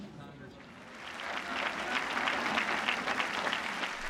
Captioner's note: audience applauding